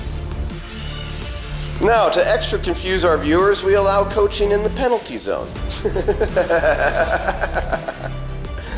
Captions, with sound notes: Now, to extra confuse our viewers, we allow coaching in the penalty zone. (laughs)